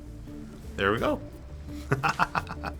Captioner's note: chuckles